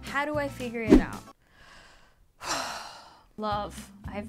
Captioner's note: sighs